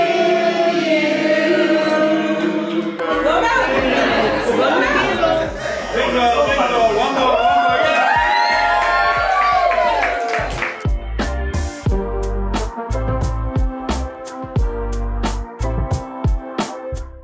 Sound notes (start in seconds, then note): 8.4 all cheering; 11.2 upbeat music